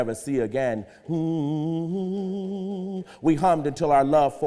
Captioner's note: humming